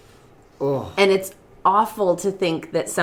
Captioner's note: moans